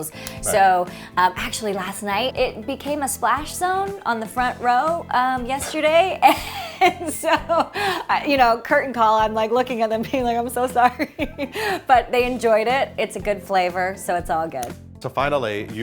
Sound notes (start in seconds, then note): 11.3 laughing